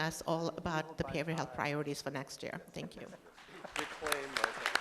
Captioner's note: applause